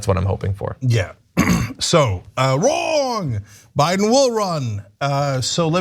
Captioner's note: cough